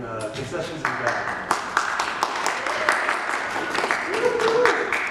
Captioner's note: audience applause